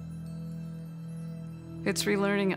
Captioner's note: chimes chiming